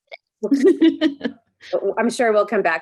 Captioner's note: laughs